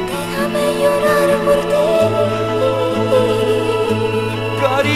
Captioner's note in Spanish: Voz de mujer